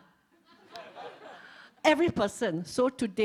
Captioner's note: laughs